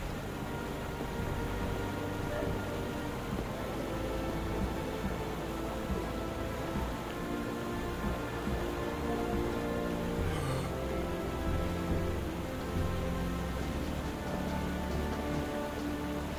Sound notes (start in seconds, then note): 0.2 gentle music; 10.3 man gasps; 12.6 gentle music